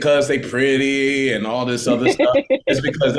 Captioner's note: laughing